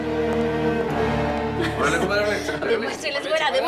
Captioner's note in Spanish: Bullicio